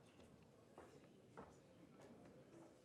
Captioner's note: none